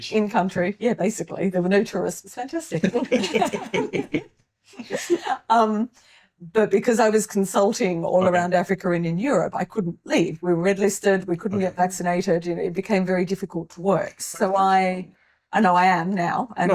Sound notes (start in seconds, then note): 4.6 laughing